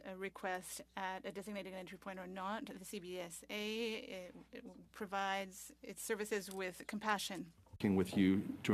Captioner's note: speaking French